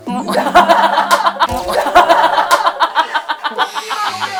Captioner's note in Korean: 크게 웃는 와 제작진